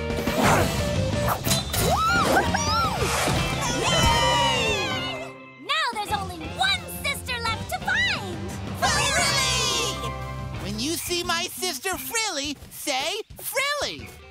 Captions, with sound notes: [cheering] Now there's only one sister left to find! Frilly! When you see my sister Frilly, say "Frilly".